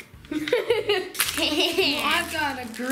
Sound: laughing

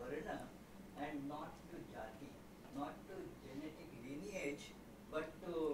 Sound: non-english

